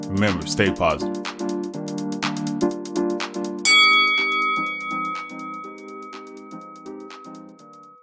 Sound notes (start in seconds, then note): 2.7 upbeat music; 3.6 bell dinging